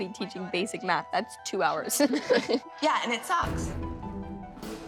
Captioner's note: laughs